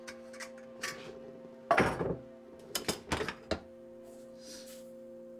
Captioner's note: metallic rattling; coffee trickling